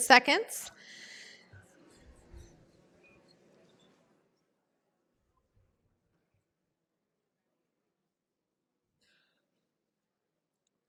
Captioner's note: pause